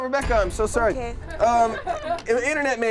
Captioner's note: group laughs